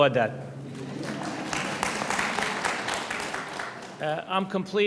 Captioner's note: audience applauds